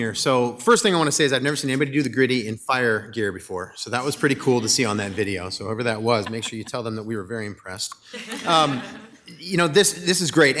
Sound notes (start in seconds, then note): 8.1 audience laughs